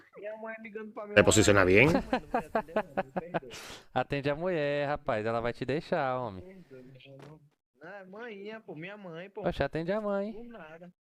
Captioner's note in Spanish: risas